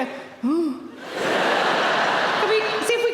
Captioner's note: audience laughing